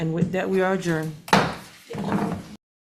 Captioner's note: gavel bangs